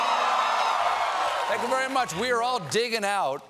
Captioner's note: cheers and applause